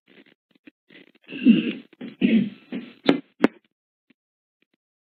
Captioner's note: clears throat